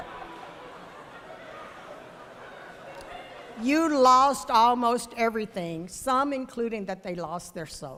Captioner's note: laughter